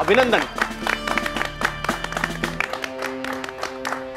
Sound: claps

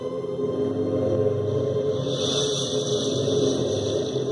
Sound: energy beam whizzing and sizzling

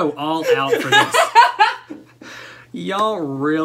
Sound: laughter

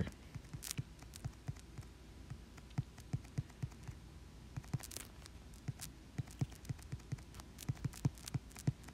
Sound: tapping intensifies

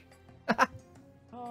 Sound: laughing

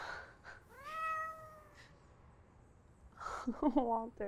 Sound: Walter meowing

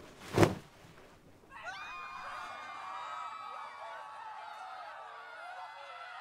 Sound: panicked screaming

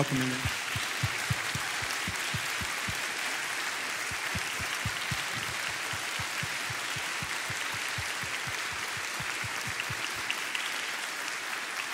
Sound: crowd applauds

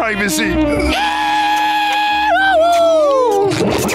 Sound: cheering

